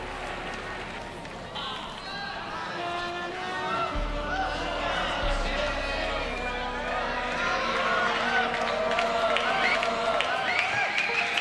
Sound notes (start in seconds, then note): 0.7 audience chattering